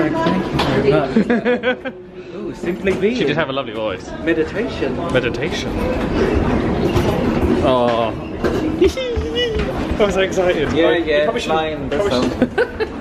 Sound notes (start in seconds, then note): 8.8 giggling excitedly